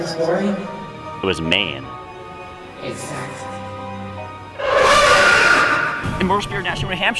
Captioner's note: pained screech